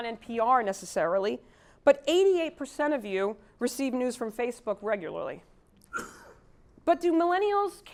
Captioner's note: cough